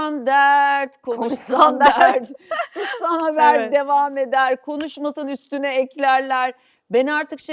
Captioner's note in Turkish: kahkaha